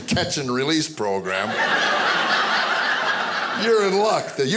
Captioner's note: audience laughing